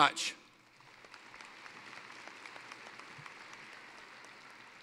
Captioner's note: applause